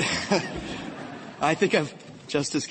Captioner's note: laughter